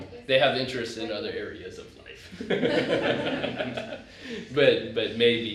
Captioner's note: laughter